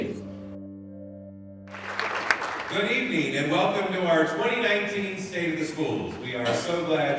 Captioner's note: applause